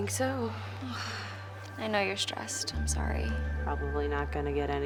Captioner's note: sighs